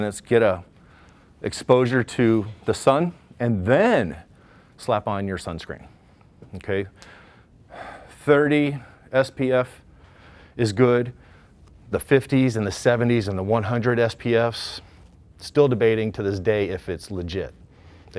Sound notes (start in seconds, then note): none